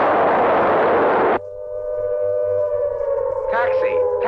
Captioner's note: sirens wailing